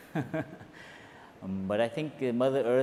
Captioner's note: slight laugh